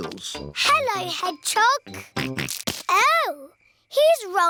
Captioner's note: snorts